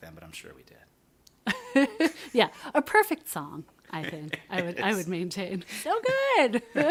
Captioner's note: laughter